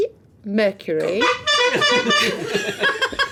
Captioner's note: buzzing; laughing